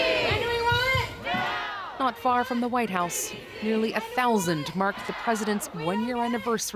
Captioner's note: chanting